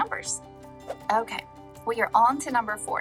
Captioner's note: air whooshing